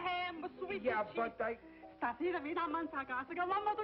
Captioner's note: speaking spanish